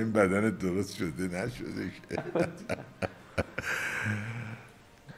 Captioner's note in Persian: خنده